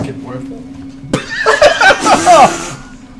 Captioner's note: laughter